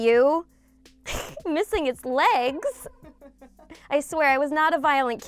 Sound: laughs

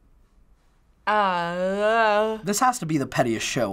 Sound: groans

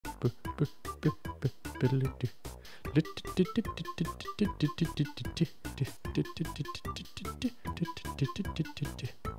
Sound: humming

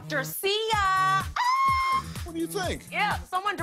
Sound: shrieks

